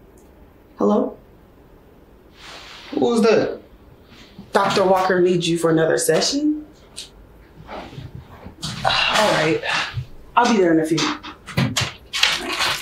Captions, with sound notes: - Hello? - Who is that? - Dr. Walker needs you for another session? (sighs) All right, I'll be there in a few.